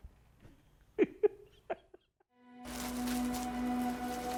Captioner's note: laughs; dramatic music